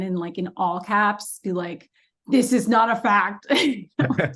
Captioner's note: laughs